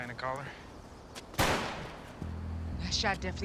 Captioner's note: gunshot